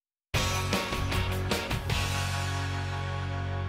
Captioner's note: none